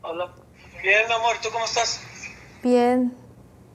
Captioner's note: Spanish